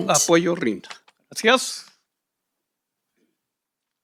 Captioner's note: speaking in Spanish